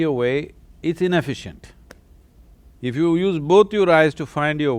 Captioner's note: none